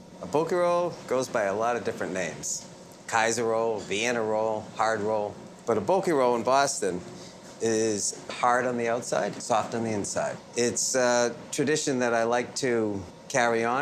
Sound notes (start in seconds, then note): none